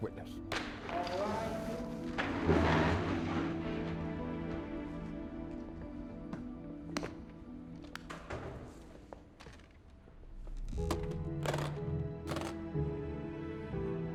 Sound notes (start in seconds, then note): 0.1 gavel bangs; 10.7 case clicking shut